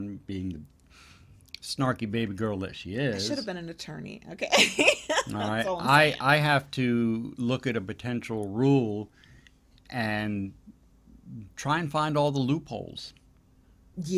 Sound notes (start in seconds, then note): 4.6 laughs